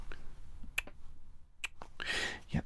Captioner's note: clicking